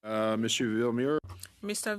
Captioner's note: speaking French